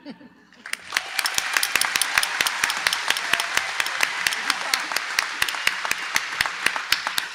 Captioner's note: applause